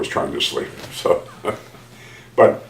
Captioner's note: laughs